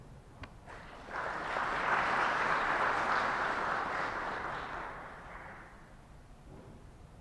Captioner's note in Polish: oklaski